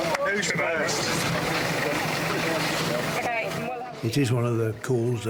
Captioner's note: rescuers chat together